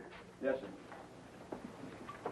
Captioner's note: pat